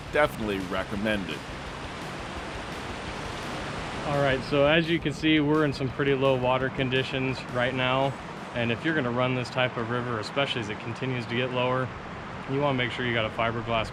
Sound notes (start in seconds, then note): 4.4 water rushing